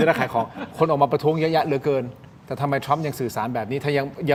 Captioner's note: laughter